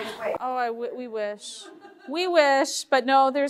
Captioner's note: group laughing